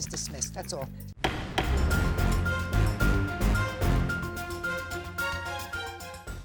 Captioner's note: gavel pounding; dramatic music